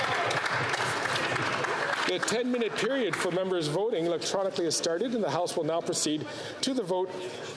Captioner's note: applause